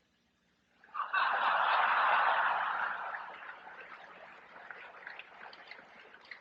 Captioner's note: laughter and applause